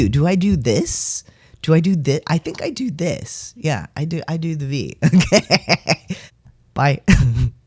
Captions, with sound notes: Do I do this? Do I do this? I think I do this. Yeah, I do - I do the V. Okay. [laughing] Bye. [laugh]